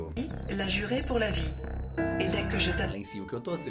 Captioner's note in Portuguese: narração em francês